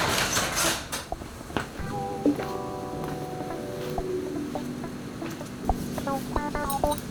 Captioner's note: funk softly playing; garage door opening; footsteps; funk softly playing